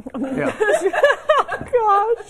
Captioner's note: laughter